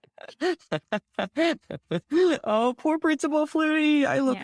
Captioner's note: laughing